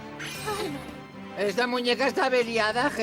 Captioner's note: gasps